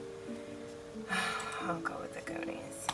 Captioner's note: sighs